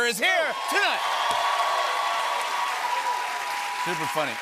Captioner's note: cheers and applause